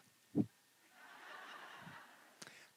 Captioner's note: laughter